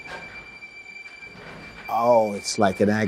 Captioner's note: roller door opening